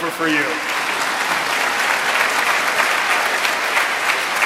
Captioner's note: audience applauding